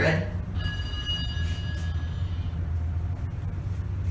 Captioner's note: ding